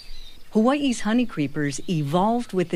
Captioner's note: Hakalau forest birdsong for a few seconds